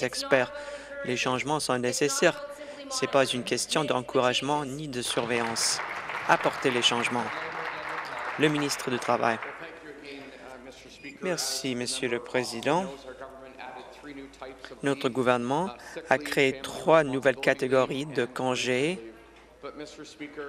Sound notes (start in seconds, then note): 10.6 applause